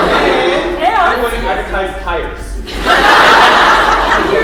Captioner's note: laughter